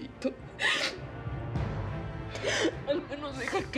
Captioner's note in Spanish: sollozos